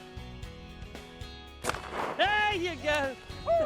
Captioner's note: gun fires